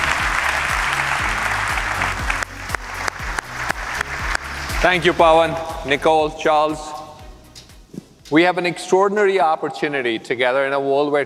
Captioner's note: applause